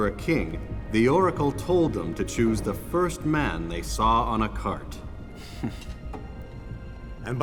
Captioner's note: gasps